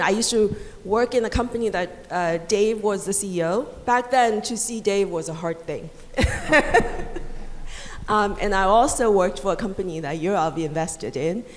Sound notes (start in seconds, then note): 6.2 laughs loudly